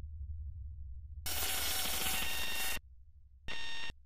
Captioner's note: static buzzing